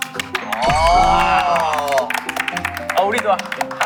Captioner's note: applaud